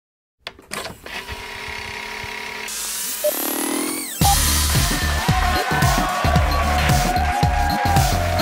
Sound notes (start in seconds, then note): 0.8 whirring; 4.2 cheering and applause